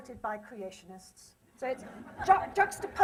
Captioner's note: laughter